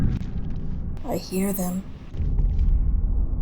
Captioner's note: whispered